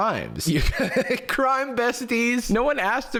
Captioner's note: laughs